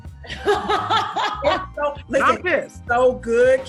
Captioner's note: laughs